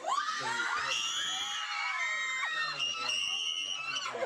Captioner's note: they scream